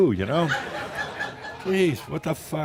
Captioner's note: laughter